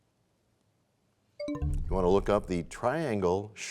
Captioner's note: bell chimes, time expires